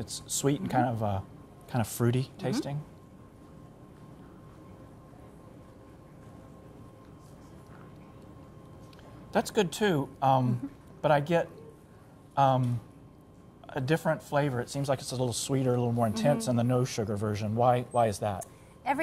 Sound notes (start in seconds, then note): 4.6 pause